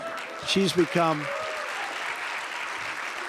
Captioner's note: laughter and applause